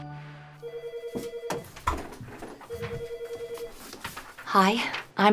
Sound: office phone ringing

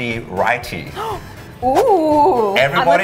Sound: gasping

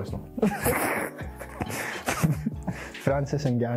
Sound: both laugh

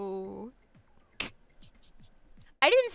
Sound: snickers

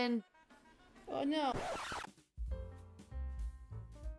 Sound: skrrrrrrt

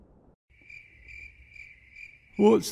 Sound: crickets

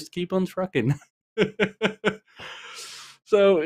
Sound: laughs

